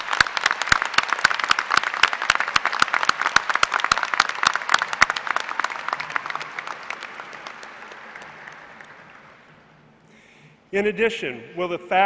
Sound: applause

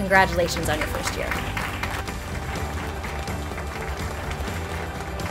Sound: audience claps

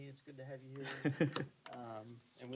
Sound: chuckling

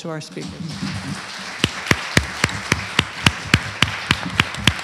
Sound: applause

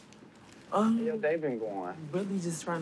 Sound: none

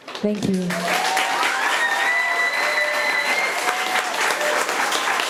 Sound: audience applauding

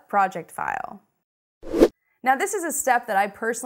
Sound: air rushes

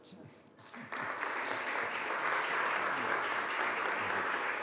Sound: audience applauding

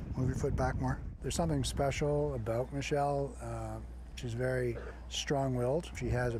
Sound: chuckles

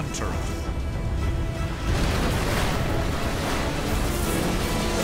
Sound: explosion

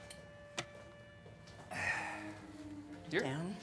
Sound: grunts

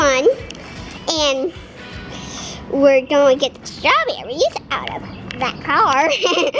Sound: laughs

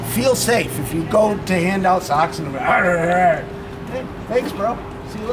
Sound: growls

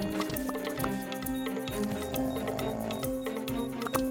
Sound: soft beeping; snoring

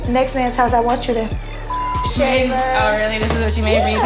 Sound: beep

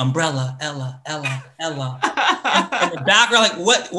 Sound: laughs

